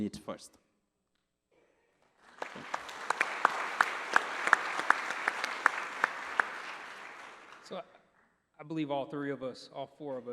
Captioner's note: applause